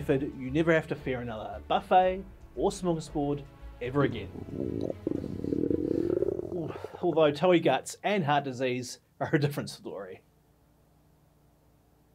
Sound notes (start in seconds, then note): 4.0 disgusting gut churning sound